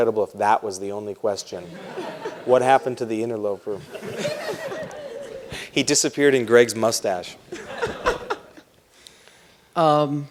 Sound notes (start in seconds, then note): 3.7 laughter